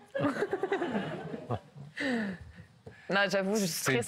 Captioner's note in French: rires